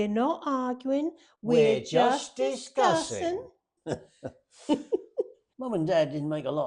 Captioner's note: laughs